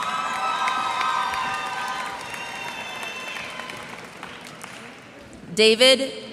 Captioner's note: cheers and applause